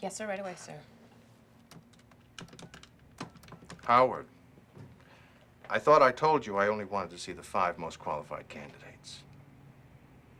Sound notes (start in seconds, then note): 3.2 phone beeps